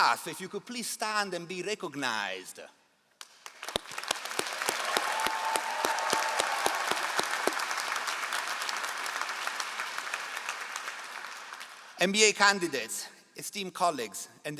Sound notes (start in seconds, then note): 3.9 all applauding